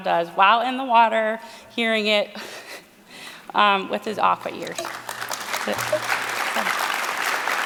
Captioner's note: applause